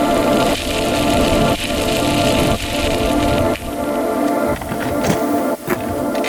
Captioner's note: bike tires scrunching; bike gears ratcheting